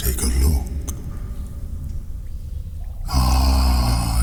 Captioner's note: cave noises